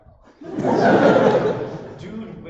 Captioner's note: laughter